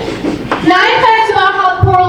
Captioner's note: audience laughing